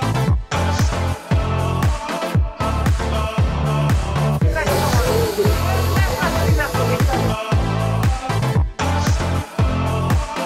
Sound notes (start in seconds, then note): 4.4 hydraulics hissing